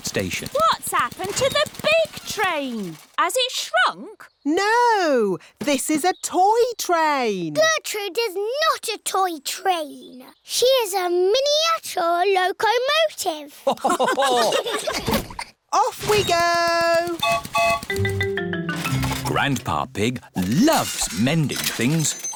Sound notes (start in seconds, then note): 13.6 laughter; 17.2 whistle blows